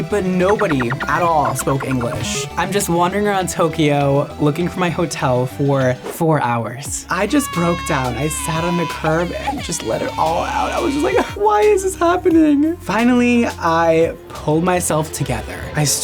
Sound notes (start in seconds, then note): 0.5 text beeping; 7.1 wailing